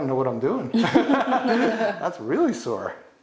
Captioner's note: all laughing